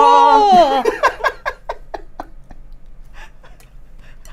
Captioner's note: laughs